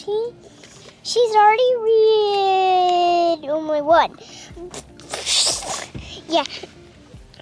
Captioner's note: giggles